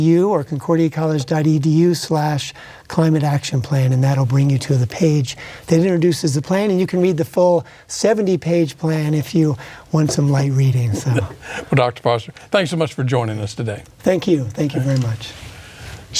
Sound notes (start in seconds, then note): 10.8 chuckles